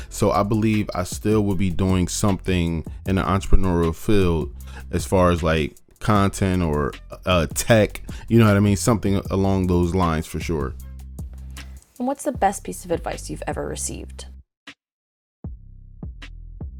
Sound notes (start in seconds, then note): none